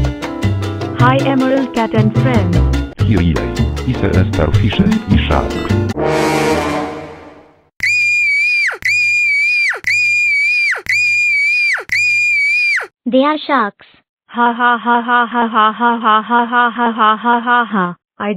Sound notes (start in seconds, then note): 7.8 cat screaming; 14.4 evil cat laughing